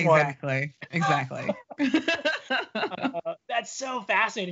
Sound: laughing

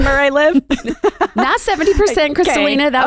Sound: giggles

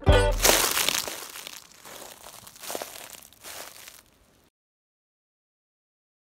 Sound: easy-going oscillating music ending; footsteps crunching softly

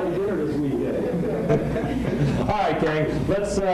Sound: laughter

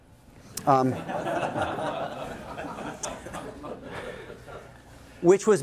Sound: laughter

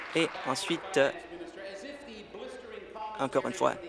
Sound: applause

